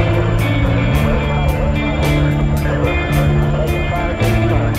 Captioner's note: blades whirring